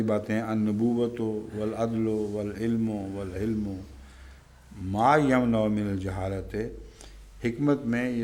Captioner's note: Arabic